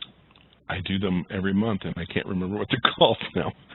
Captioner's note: laugh